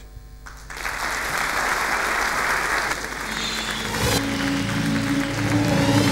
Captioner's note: applause